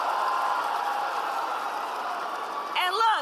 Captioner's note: applause